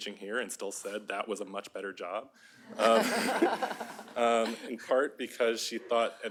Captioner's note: laughter